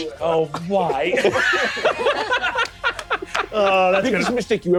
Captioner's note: all laughing